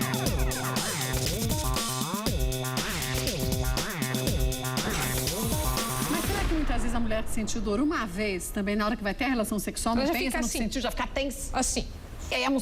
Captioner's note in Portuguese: risos